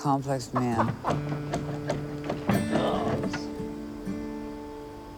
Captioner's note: laughs